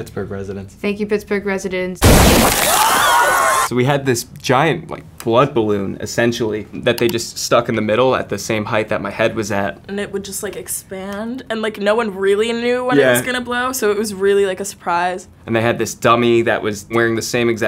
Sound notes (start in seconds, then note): 2.0 gruesome wet explosion; 2.4 everyone screams; 6.7 computer click